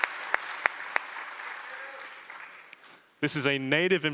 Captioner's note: applause